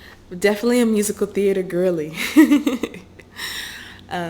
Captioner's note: laughter